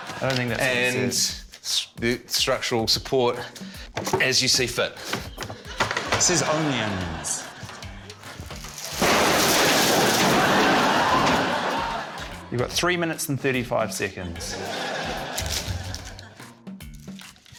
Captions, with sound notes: - I don't think that's what it said. - 'And use structural support as you see fit.' - It says 'only onions.' (CRASH!) - You've got three minutes and 35 seconds.